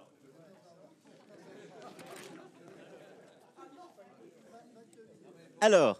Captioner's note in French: Rires